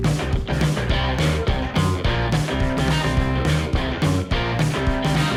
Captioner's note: bike roars